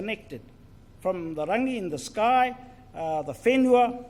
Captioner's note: foreign Language